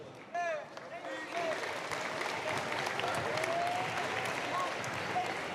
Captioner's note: applause, cheers